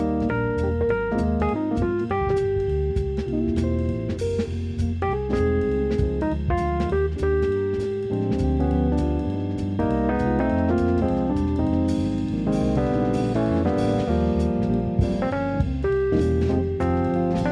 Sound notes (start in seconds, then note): none